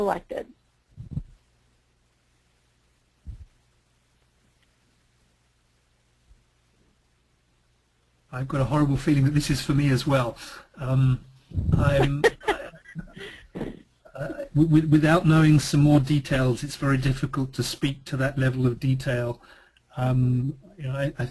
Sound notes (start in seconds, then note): 11.7 laughter